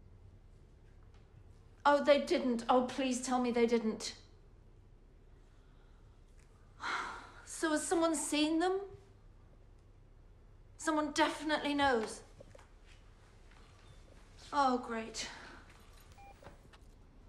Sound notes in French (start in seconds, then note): 6.6 soupirs